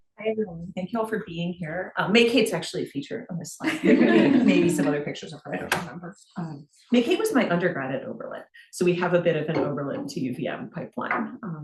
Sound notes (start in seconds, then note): 0.0 gentle music; 3.7 students laughing